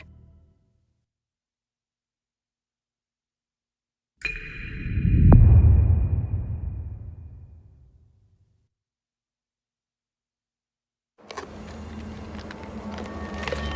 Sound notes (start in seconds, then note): 6.6 dramatic sound